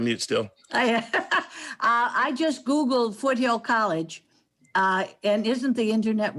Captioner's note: laughs